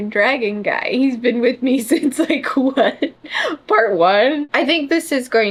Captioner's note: laughs